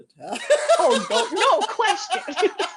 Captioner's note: laughter